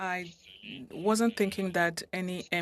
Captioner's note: speaking French